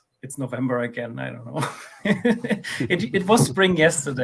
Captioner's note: laughs